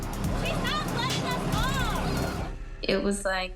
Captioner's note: child speaking